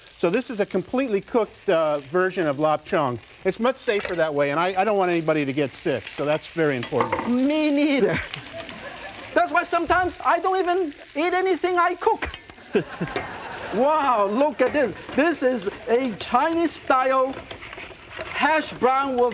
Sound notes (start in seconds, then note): 12.6 laughter